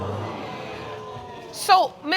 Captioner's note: audience exclaiming